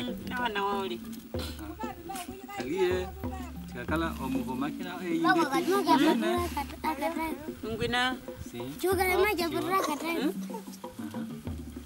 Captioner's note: Sounds of Himba life